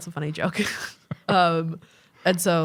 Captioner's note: chuckling